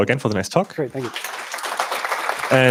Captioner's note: applause